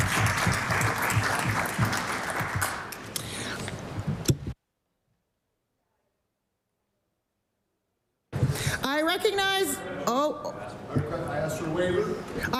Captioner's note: applause